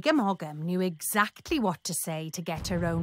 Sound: thundering footsteps

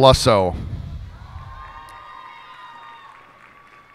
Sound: cheers and applause

